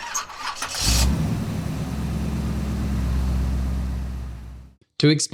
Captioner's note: car Revving